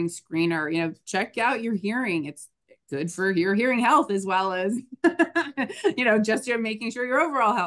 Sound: laughs

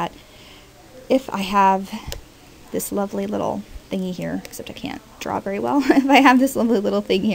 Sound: laughs

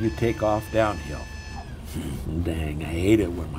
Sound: alarm buzzing

